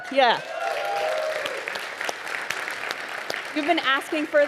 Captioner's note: audience applauding